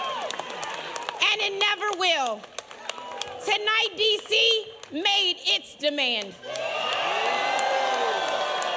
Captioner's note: applause